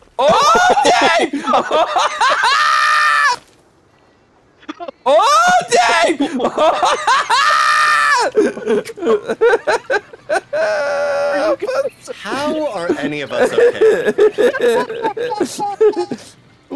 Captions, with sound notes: Oh, Dave! *screaming* Oh, Dave! *screaming* *group laughter* How are any of us okay? *hysterical laughter*